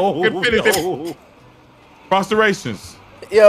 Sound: laughing

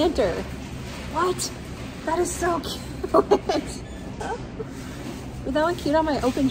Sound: laughing

